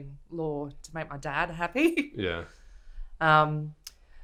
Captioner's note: laughs